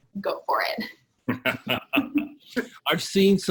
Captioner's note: all laughing